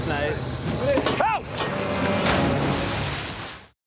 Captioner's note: shouts